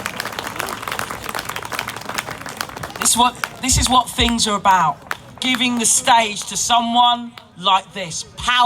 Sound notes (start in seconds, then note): 3.3 large applause from crowd